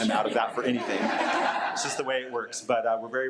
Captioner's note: audience laughing